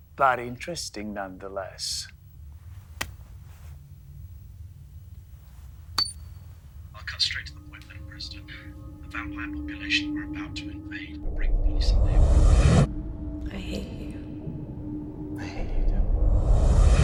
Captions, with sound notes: but interesting nonetheless. (finger taps) - I'll cut straight to the point, Madam President. The vampire population are about to invade and break the peace. - I hate you. - I hate you too.